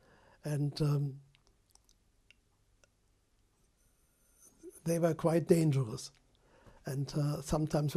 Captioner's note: pauses for 3 seconds